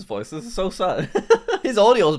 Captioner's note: laughing